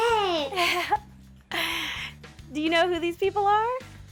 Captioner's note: laughs